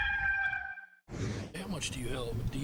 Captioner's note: rooster crows; whoosh